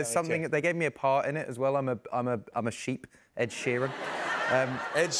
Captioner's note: laughter